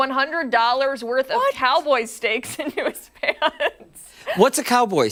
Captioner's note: laughter